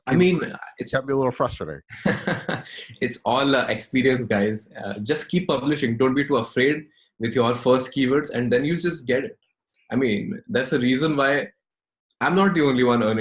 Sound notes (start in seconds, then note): 1.9 laughing